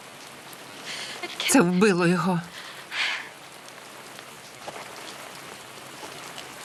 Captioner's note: crying